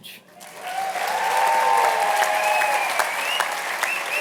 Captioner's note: cheers and applause